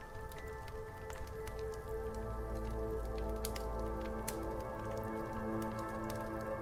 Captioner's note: fire crackling; pensive music continues